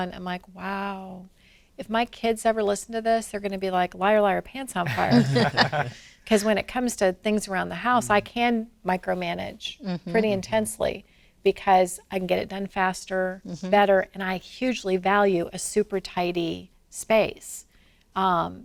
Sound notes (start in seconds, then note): 4.8 laughs